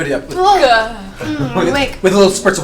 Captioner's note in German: stöhnt